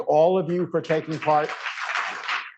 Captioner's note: applause